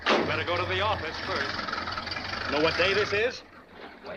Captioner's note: none